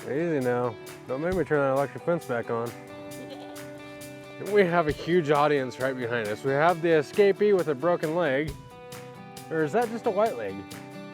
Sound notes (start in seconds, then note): 3.2 goat bleats